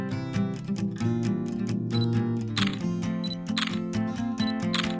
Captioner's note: camera shutter beeping and clicking